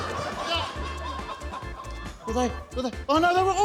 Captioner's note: exclaims